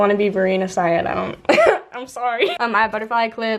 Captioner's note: laughs